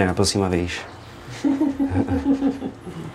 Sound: laughters in the background

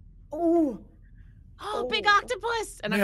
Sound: person gasping

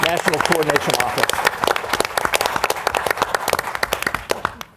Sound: audience applauds

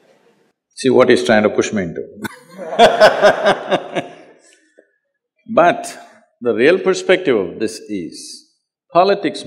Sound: laughs

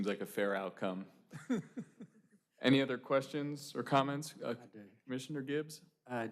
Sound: laughter

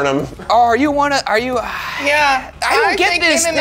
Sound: sighs

